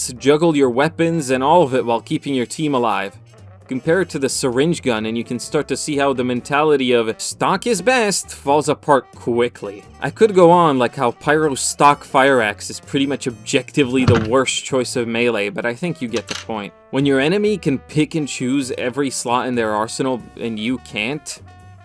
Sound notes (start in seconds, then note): 7.4 mockingly; 14.0 thud; 16.1 clatter